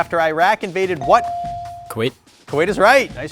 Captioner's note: buzzer dings